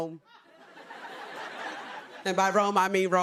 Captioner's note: laughter